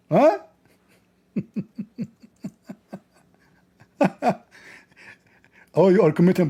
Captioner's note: Ketawa